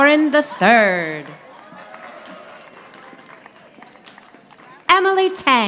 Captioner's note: audience applauding